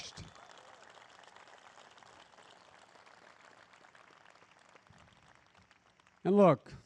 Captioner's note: applause